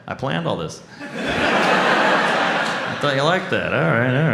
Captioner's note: audience laughs